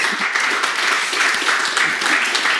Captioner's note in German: Applaus